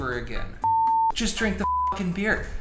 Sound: high pitched tone

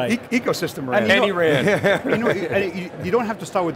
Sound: laughing

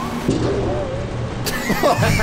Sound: boing, but slower; laughter

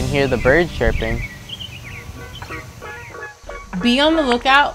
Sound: birds chirping

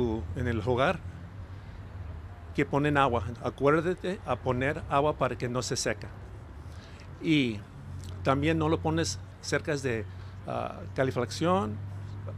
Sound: remarks in spanish

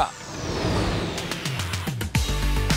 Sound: air whooshing; bright upbeat music

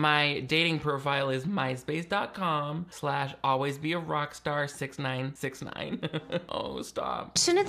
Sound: laughs

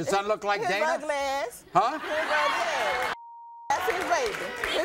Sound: audience laughs

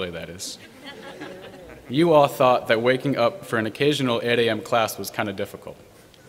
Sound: laughter

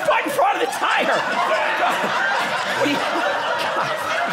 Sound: audience laughing

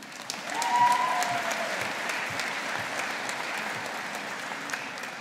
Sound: audience applauding

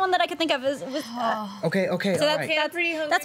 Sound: sighs

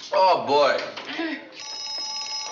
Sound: ringing telephone

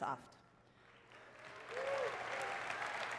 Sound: applause

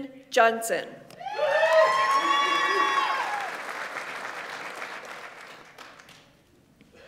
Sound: audience members cheer; audience applauds

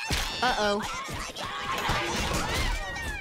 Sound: fighting, horn honking

